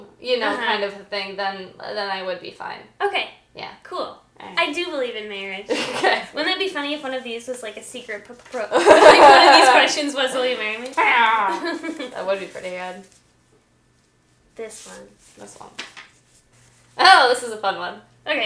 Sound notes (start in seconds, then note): 4.9 both laughing; 8.7 both laughing, very nervously